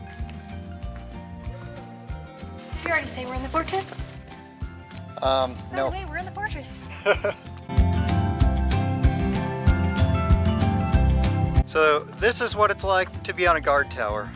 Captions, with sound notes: Did you already say we're in the fortress? Um, no. By the way, we're in the fortress! [Laughter] So this is what it's like to be on a guard tower.